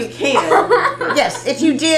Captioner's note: laughter